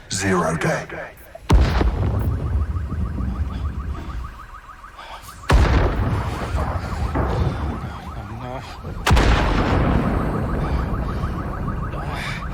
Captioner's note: pained breaths